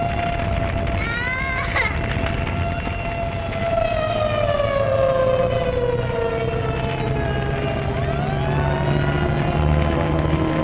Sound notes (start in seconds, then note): 1.0 crying; 2.6 alarm blaring